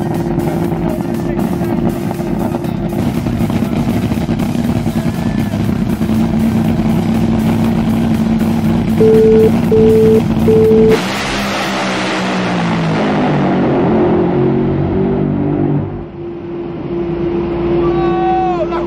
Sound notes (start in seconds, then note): 3.9 engine growling; 11.0 engine revs loudly